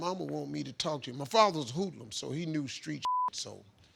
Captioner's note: beep